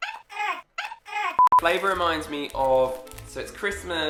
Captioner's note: signal beeps